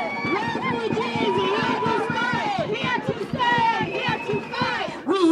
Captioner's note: chant